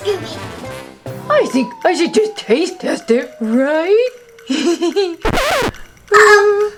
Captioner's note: giggles